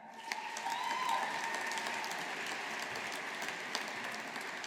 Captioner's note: audience applauding